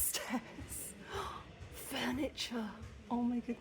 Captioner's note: gasp